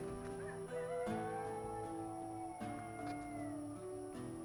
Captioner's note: coyote howling